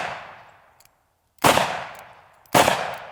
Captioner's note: gun shooting; gun shooting